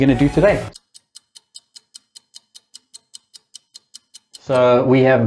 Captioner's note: clock ticking